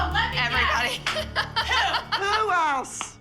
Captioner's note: laughing